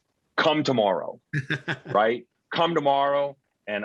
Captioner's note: chuckling